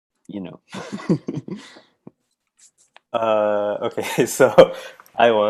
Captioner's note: chuckles